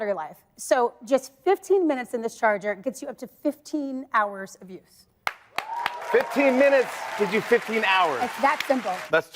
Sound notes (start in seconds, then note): 5.2 and audience claps